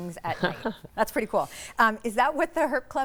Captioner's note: chuckling